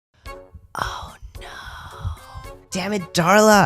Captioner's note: whispering